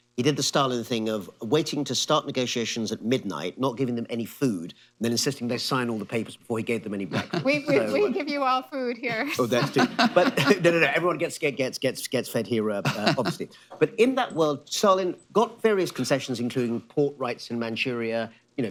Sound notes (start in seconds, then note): 9.2 laughter; 12.8 laughs